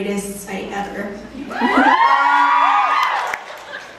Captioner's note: cheering in the audience